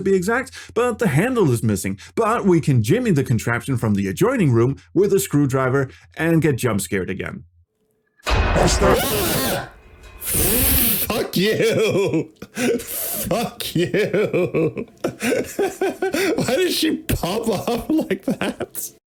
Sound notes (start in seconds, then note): 8.1 screams like a serious youtuber; 8.3 loud generic jumpscare sound